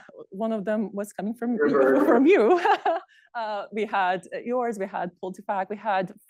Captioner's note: laughs